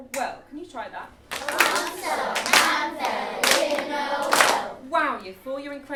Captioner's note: all rhythmically and clapping